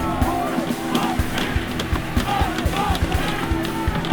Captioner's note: chanting